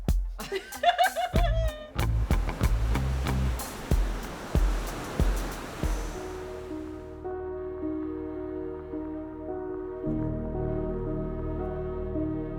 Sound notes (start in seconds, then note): 0.3 laughs